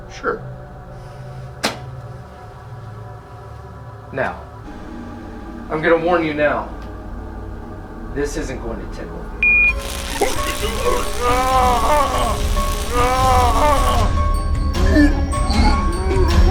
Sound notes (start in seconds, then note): 9.4 phone beeps; 9.6 collar crackling; 10.2 Cole moaning